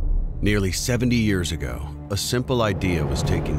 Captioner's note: voiceover